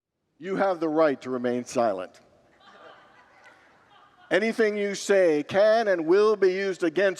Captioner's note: congregants laugh